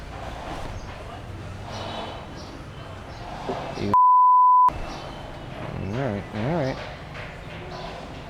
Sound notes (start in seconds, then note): 3.9 beep